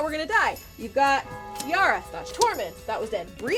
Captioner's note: bell tolling